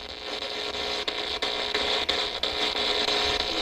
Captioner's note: static buzzing